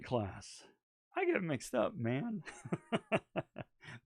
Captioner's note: chuckling